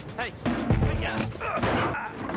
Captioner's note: Phil grunts